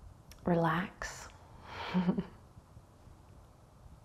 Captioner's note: chuckles